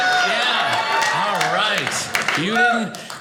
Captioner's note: audience cheers